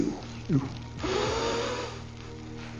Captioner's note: deep inhale